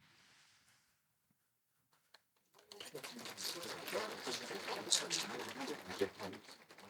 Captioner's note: applause